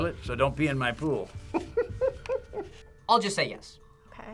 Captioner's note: laughs